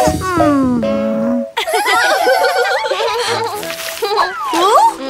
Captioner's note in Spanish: Risas